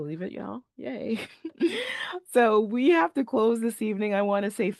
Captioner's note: laughs